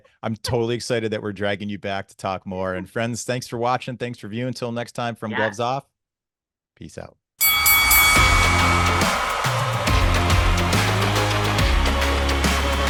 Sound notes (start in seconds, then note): 7.4 boxing bell rings; 7.5 energetic music